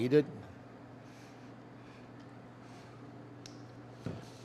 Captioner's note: silence